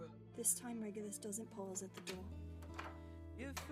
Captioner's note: door opens and closes